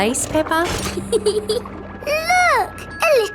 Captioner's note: peppa giggles